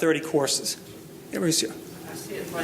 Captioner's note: speaking faintly